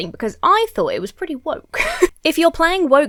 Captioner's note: laughs